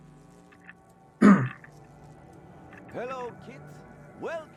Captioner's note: clears throat